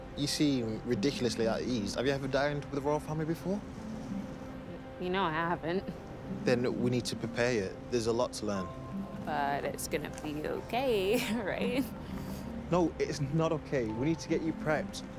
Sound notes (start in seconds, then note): 11.7 laughs